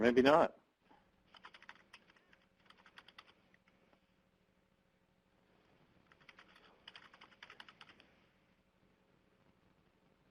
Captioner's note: typing